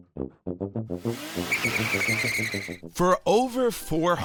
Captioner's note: brakes screeching